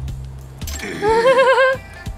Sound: chuckles

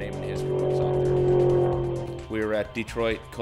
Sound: car engine roars

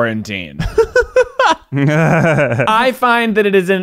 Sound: laughing

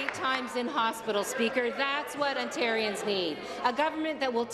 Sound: applause

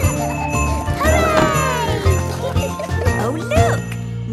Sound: kids laughing; laughter

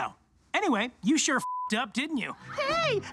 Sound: beep

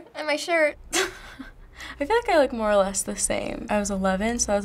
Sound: chuckling

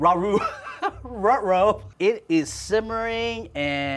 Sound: laughs

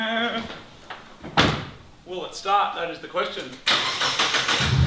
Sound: door squeaks; door closes; engine turns over and starts

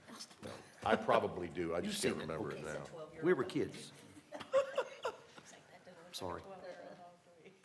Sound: laughter

